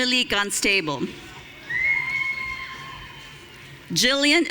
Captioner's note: audience cheering